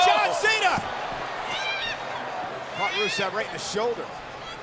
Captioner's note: Lana yelling